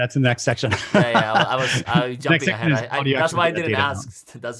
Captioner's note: laughs